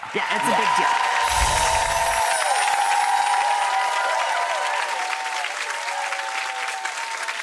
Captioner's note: audience cheering; chimes tinkling